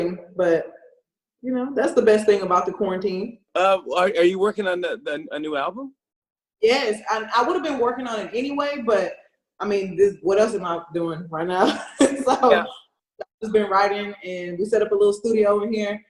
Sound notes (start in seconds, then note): 11.8 laughs